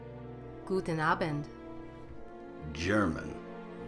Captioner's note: speaking foreign language